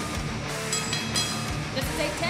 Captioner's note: bell ringing